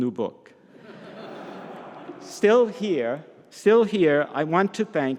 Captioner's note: audience laughs